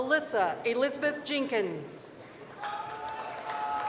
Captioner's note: applause